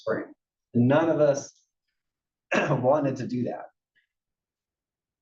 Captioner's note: cough